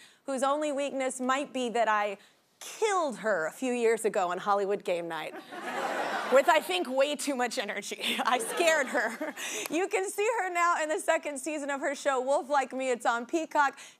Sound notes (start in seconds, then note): 5.4 audience laughing